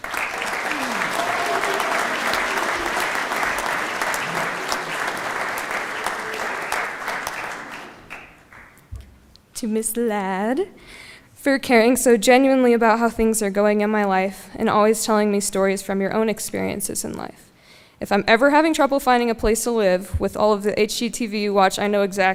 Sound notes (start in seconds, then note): 5.0 applause